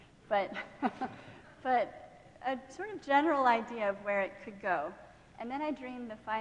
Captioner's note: laughing